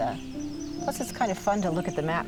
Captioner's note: birdsong